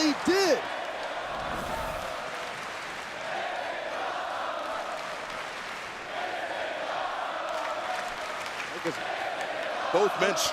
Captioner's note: applause